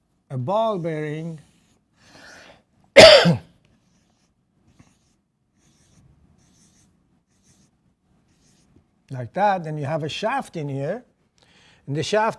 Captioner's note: cough